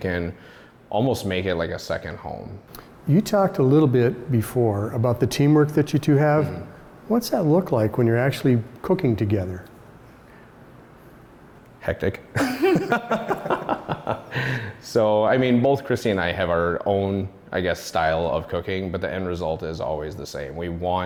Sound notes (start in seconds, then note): 12.3 all laughing